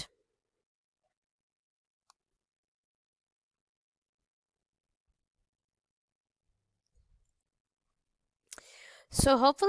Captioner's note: silence